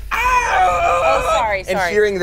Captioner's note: yells